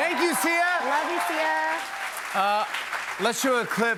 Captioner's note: cheers and applause